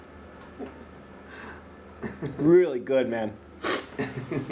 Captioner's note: chuckles